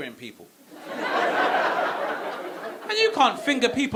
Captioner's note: audience laughing